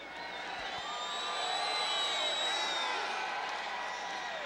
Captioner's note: crowd cheering